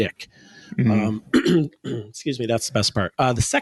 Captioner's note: clears throat